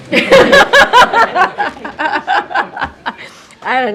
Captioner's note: laughter